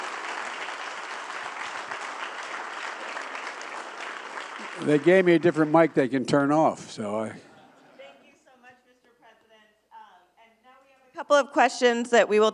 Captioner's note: applause